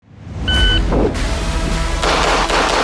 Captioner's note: device beeping; lively music; gunshots banging